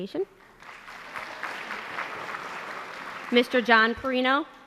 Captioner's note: applause